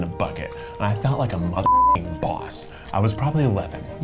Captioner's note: beep